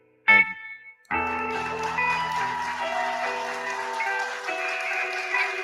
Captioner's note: cheering